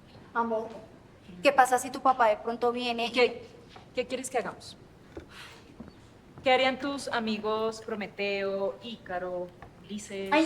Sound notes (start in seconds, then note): none